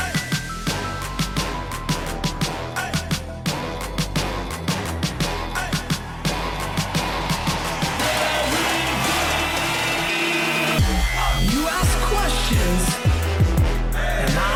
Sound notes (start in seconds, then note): 0.1 hip hop music; 8.3 voiceover